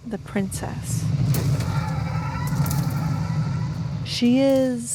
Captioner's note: rumbling gives way to the howl of the inevitable